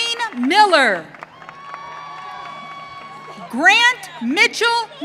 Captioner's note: audience cheering